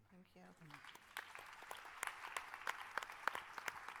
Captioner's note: applause